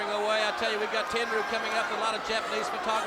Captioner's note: crowd chatter